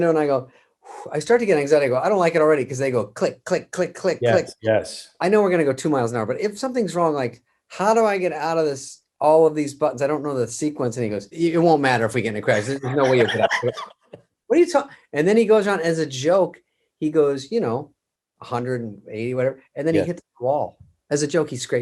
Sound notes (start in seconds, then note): 12.4 Kevin laughs